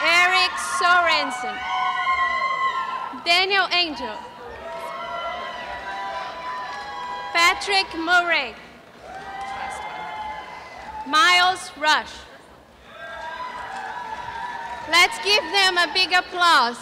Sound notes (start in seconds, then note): 12.8 cheering